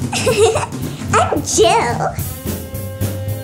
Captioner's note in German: kichert